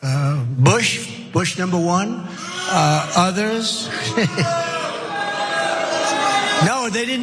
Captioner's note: laugh